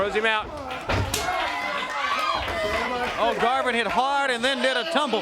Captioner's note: crowd cheering